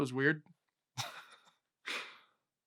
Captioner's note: laughs